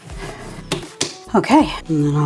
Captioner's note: slap slap